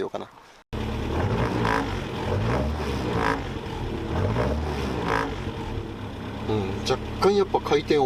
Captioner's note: engine noise